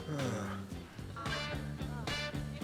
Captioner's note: sighs